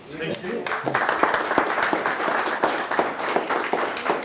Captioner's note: applause